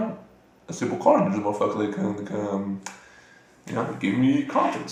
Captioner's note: stuttering like a bitch again